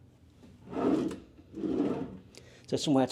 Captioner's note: drawer whirring